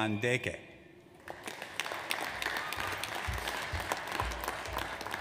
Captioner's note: audience applauds